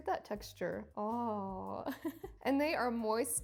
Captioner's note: chuckles